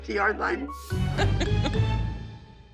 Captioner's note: laughs